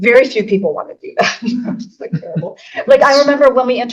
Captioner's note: laughing